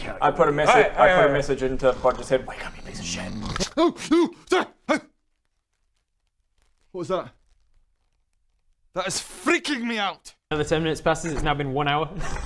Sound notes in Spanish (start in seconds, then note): 2.5 susurros; 3.3 bufido; 3.3 ronquido